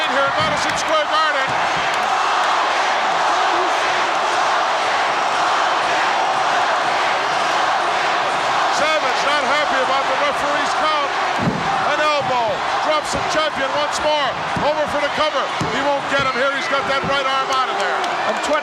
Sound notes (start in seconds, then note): 3.0 audience cheering